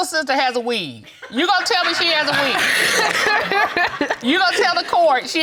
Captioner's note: audience laughs